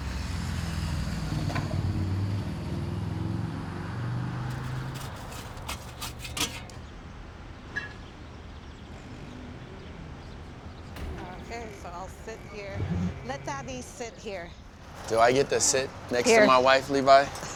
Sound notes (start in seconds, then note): 8.5 birds chirping